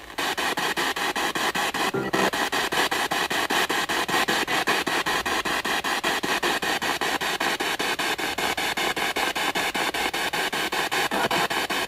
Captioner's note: radio noise from the spirit box